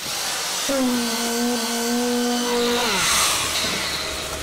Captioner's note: machine revving